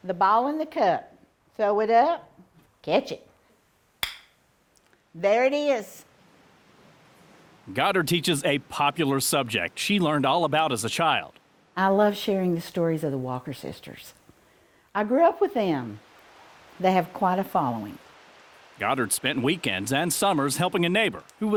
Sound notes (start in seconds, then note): 4.0 ball lands in cup